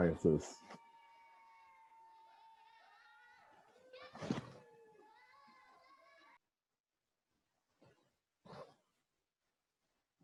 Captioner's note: cheering in background